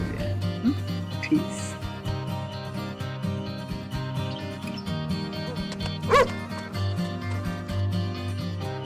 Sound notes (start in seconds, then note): 0.0 laughs; 2.9 upbeat guitar music; 5.4 dog barks